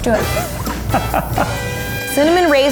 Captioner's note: laughing